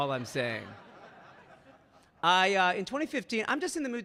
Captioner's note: audience laughing